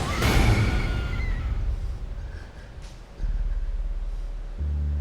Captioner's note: woman screams; unsettling music